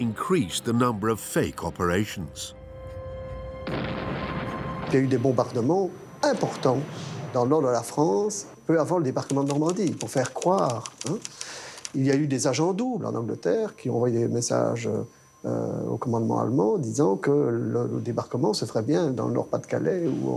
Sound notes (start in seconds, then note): 3.6 explosion booms